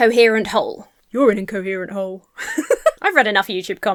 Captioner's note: laughs